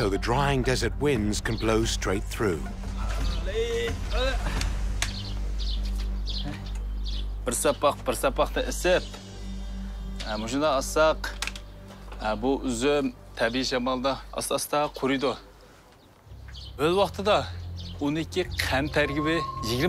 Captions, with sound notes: so the drying desert winds can blow straight through. [father straining] [birds chirping]